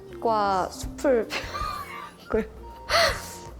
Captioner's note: wheeze